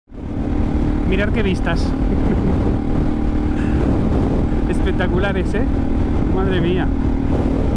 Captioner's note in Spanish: risas